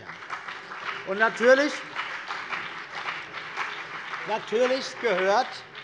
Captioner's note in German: Beifall BÜNDNIS 90/DIE GRÜNEN und vereinzelt CDU